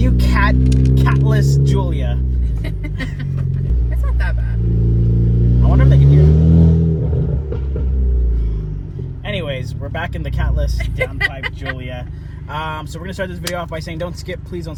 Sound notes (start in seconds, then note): 2.4 laughing; 7.3 car engine revving; 7.3 exhaust popping; 10.8 laughing